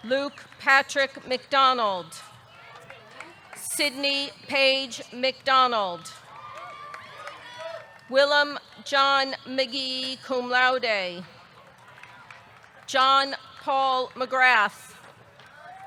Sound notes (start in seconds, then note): 2.6 audience cheering; 2.6 audience clapping; 6.3 audience cheering; 6.3 audience clapping